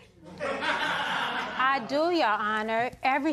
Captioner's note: laughter